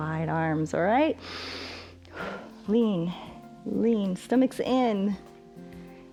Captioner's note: inhales and exhales